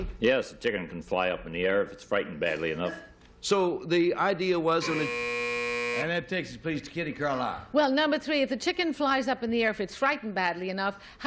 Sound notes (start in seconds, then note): 4.8 buzzer